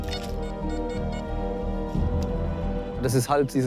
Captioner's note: metal detector beeps